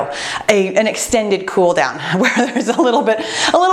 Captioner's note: laughs